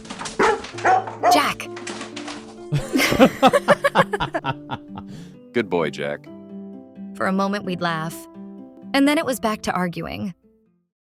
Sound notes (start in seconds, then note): 2.7 laughing